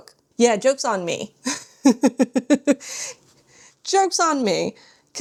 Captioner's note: laughs